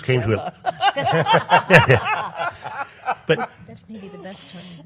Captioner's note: panel laughs